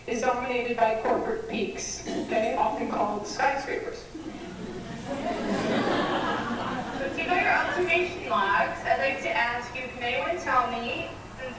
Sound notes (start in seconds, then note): 4.1 laughter